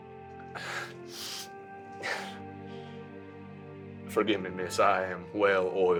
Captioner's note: laughs